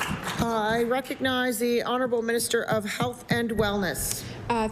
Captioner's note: applause